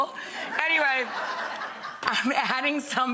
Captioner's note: audience laughing